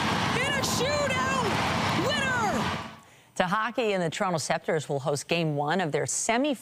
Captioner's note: applause